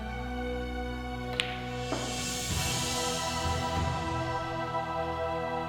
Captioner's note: pool balls clacking